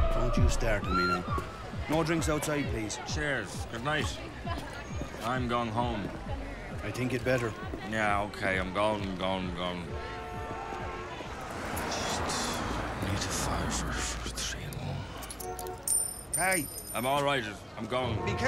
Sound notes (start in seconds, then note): 10.2 traffic sounds; 16.0 voiceover; 18.3 voiceover